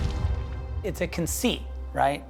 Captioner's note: explosion